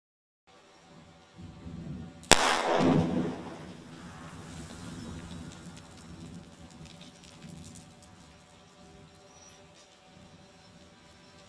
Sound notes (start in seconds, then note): 2.3 explosive booming; 2.3 rocks clattering